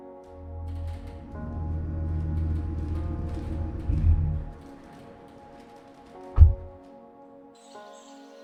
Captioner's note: truck approaching, stopping, and door opening/closing